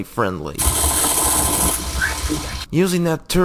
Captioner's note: rapid fire machine gun rattattatttt